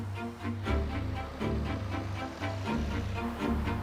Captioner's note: car engine sounds